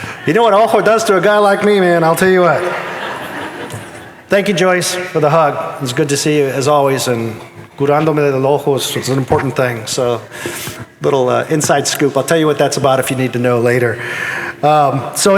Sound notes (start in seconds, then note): 0.7 in Spanish; 3.2 audience laughing; 7.4 in Spanish